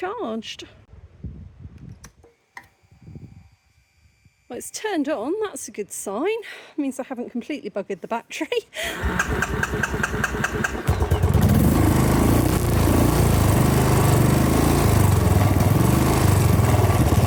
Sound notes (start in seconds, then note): 2.5 electrical whir; 8.2 laughing; 8.9 choking and then loud engine roar